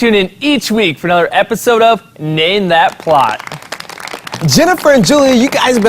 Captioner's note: clapping